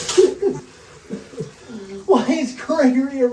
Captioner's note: crying